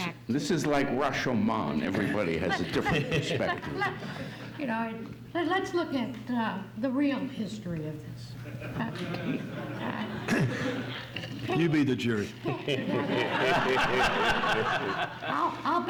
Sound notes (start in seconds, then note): 8.4 audience laughs; 12.4 audience laughs